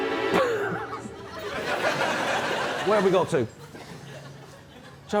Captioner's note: laughs